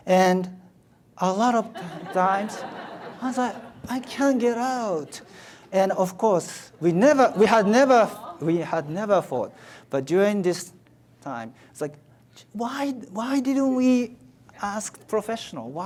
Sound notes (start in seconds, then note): 1.6 audience laughs